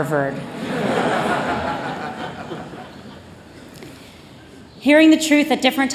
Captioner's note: laughter